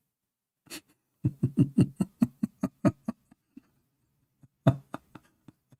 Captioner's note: Ketawa